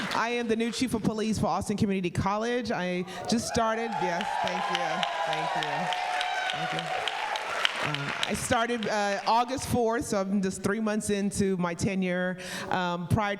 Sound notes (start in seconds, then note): 6.0 audience cheering